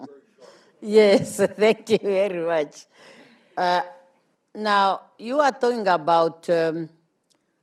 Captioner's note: laughs